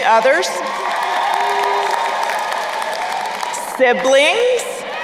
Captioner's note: crowd cheering and applauding